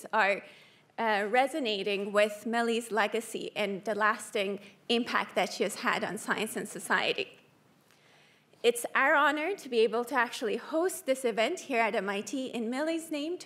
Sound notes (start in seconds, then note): none